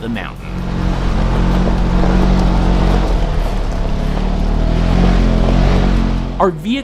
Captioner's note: engine noises